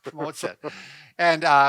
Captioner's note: chuckling